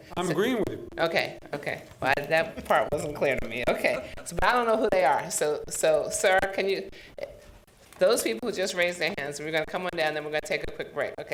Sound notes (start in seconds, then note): 2.4 chuckling